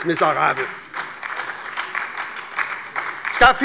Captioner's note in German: Beifall bei der SPD und der LINKEN